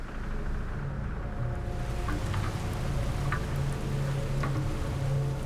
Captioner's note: rain pattering